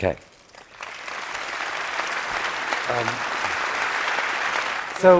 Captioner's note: applause